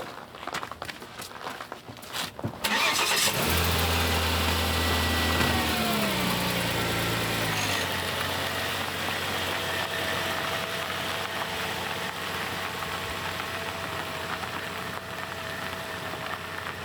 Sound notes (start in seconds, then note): 3.1 car engine revs